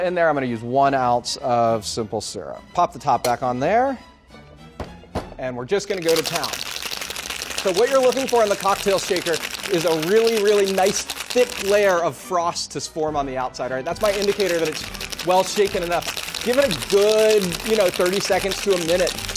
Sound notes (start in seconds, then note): 4.2 quirky orchestral music; 5.9 ice shaking